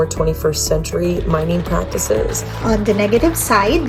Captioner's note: teachers clapping